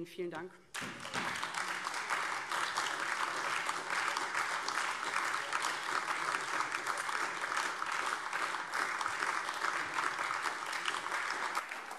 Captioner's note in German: Anhaltender Beifall AfD